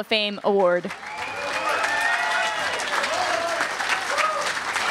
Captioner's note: crowd cheering and clapping